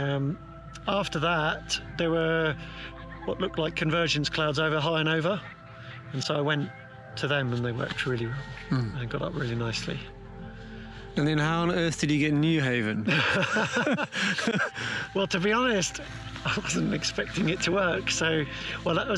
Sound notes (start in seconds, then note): 12.8 laughs